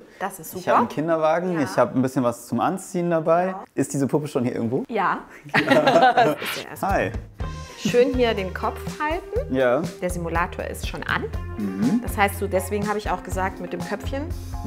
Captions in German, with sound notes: Das ist super. Ich habe ein Kinderwagen, ich hab ein bisschen was zum Anziehen dabei. Ist die Puppe irgendwo? - Ja. (Sie lachen.) Hey. - Schön ihr den Kopf halten. Der Simulator ist schon an. Deswegen hab ich das mit dem Kopf gesagt.